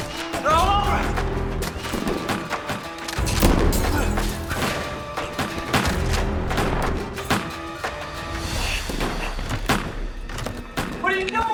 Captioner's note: gunfire